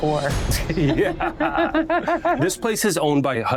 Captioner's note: laughter